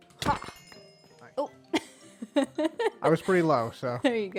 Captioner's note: laughs